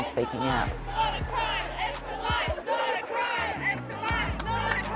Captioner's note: crowd chanting